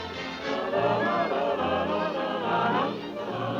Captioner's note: humming